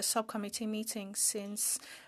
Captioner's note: speaking French